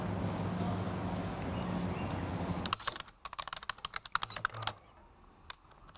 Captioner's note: street noise